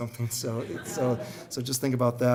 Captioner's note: crowd murmuring